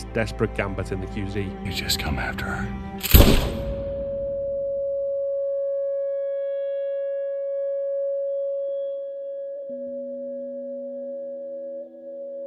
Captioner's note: gunshot